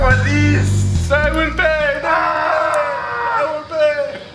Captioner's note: laughing